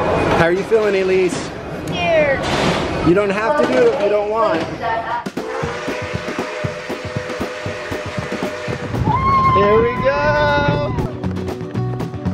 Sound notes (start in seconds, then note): 5.4 train horn whistling; 5.4 upbeat country music